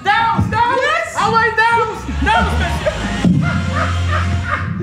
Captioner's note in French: rires